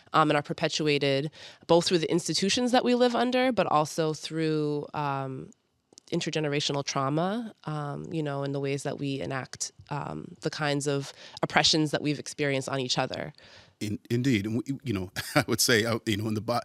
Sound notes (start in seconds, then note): 13.8 chuckles